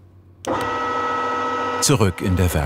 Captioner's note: machine whirring